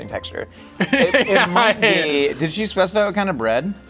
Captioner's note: laughing